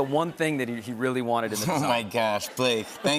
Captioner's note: laughter